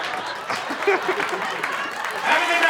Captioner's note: audience applauding; audience laughs; laughs